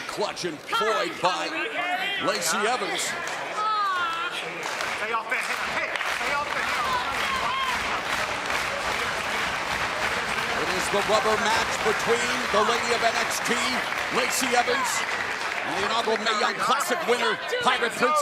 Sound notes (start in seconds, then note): 4.2 crowd cheering